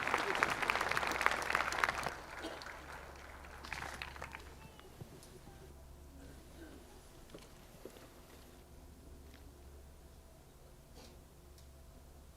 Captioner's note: applause